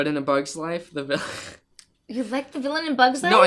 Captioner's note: laughs